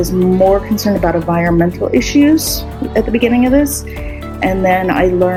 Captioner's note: teachers cheering